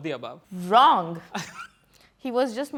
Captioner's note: laughs